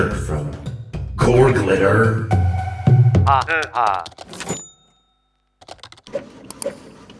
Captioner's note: cash register noise